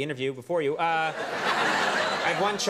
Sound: audience laughing

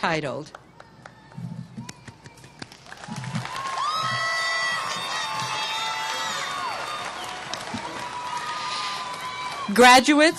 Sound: applause

